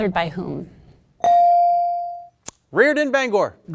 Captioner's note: bell dings